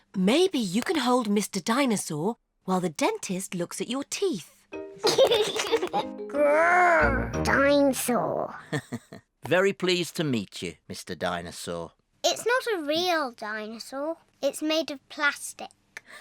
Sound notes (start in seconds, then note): 5.0 giggles; 8.6 chuckles